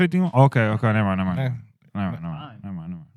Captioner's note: speaking In Foreign Language